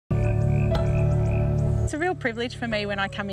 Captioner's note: insects and birds chirping